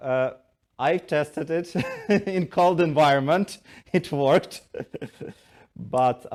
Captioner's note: chuckles